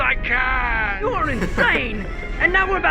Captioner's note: chuckling softly